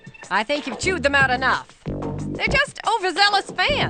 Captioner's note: none